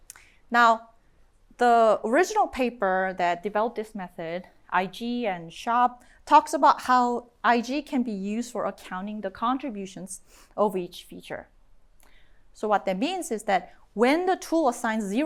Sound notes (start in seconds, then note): none